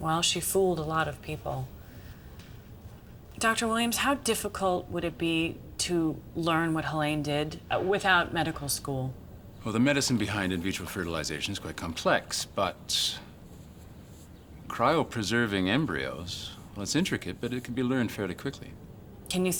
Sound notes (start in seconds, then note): none